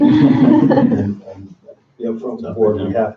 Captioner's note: all laugh